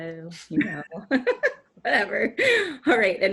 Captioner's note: laughs